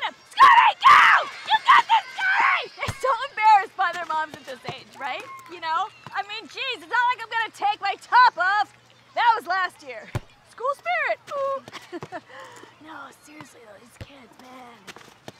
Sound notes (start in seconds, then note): 11.7 chuckles